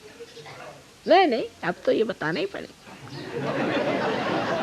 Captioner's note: laughs